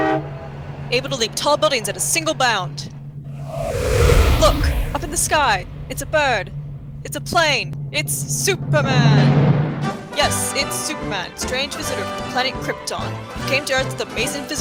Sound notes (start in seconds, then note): 3.3 loud rush of air